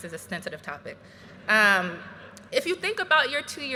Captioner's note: graduates laughing